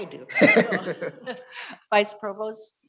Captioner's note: audience laughing